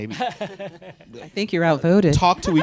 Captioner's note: laughs